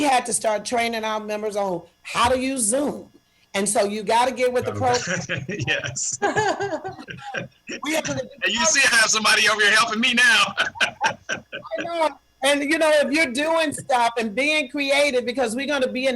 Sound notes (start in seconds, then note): 4.6 laughter; 10.4 laughter